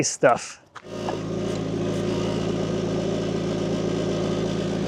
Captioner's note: machine rumbling